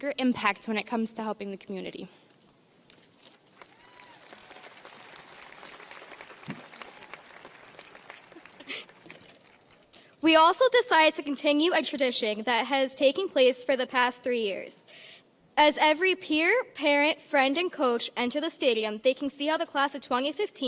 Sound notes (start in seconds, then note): 3.6 audience cheers and applauds; 8.2 laughing